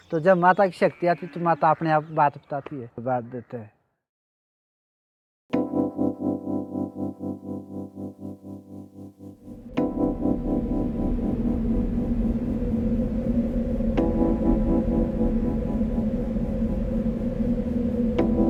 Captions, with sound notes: This is all Devi’s powers. She speaks and I don’t! (soft upbeat music) (wind rustling)